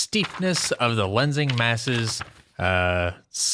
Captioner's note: flipping through papers